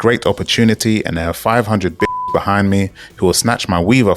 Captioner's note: beep